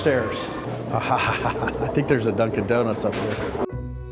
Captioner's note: chuckling